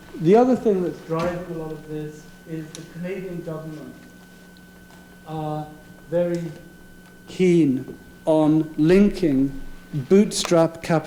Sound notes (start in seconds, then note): none